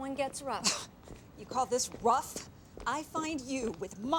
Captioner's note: scoffs